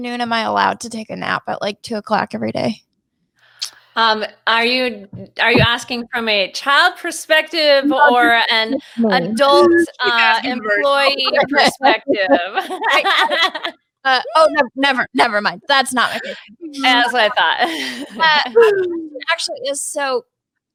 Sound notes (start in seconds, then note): 12.8 laughs